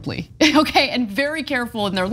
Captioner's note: laugh